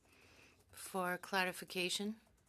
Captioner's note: speaking in French